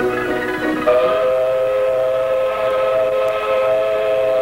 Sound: whistle blows

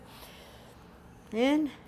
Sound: deep breath

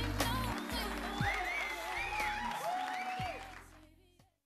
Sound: crowd applauds

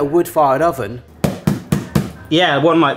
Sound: bangs boxes

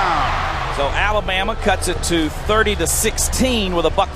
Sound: voiceover

